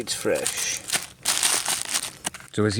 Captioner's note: plastic crinkling